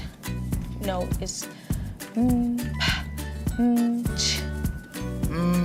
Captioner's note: vocalising and making percussive noises